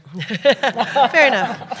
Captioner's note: laughter